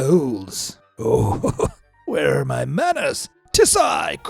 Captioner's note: chuckles